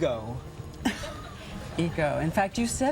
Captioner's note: interviewer laughs